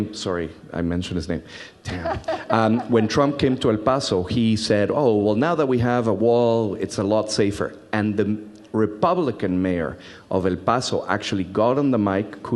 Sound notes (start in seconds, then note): 1.8 laughs